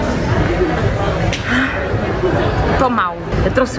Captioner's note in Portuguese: suspira